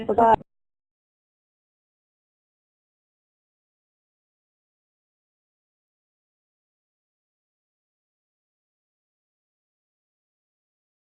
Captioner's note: silence